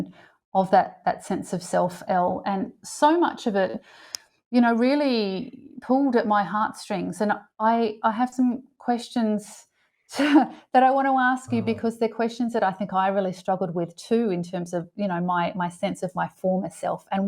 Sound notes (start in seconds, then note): 11.5 chuckles